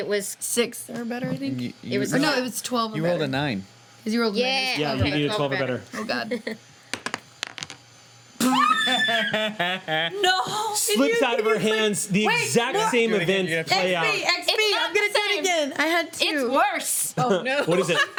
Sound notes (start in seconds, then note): 8.4 screams; 8.4 laughs